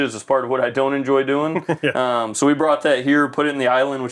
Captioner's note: laughs